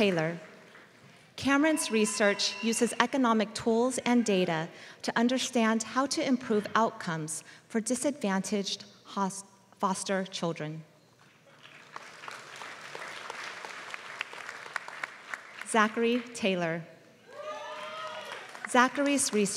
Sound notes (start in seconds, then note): 11.5 applause